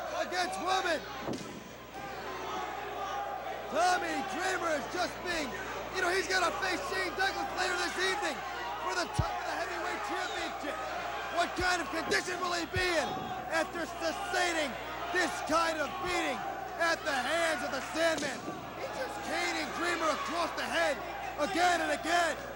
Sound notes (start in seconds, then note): 6.7 crowd chatter